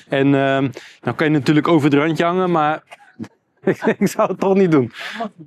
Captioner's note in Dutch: gelach